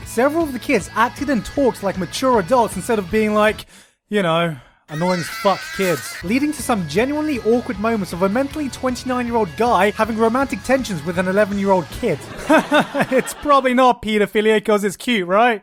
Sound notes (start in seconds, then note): 12.2 laughs in the background